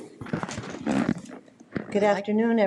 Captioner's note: objects rustling